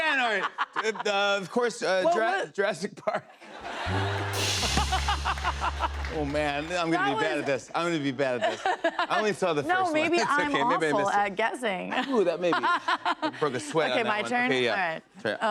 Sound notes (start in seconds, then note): 3.1 laughter